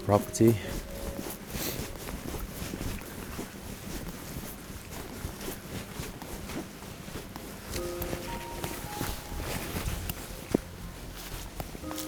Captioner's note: footsteps tapping